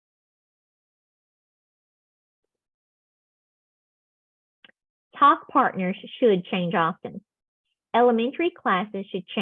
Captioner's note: silence